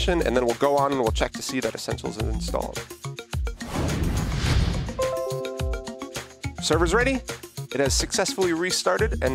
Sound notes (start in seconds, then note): 5.0 server notification chiming